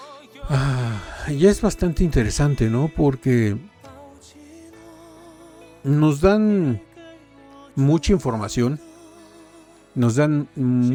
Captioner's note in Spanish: suspiro